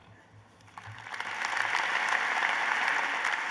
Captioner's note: applause